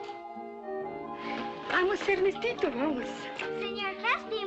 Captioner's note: in spanish